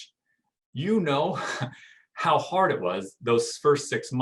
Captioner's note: chuckling